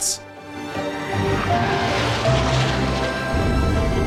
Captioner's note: rocket humming